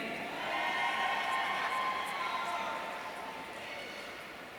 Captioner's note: audience cheering